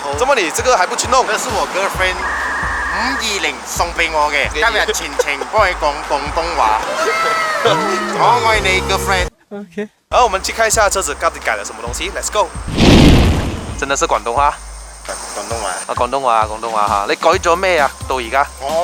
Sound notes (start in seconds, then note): 4.5 speaking Cantonese to you throughout today; 15.3 Cantonese